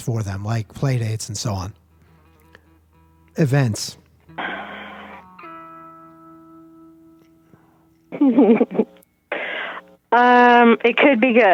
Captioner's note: laughs